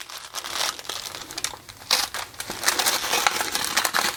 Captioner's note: paper rustling